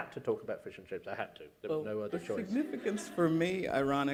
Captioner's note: laughter